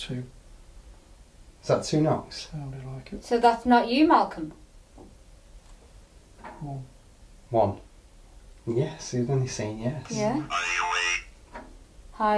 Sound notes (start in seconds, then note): 5.0 gentle knocking